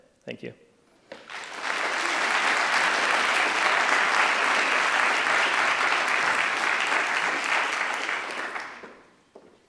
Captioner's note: applause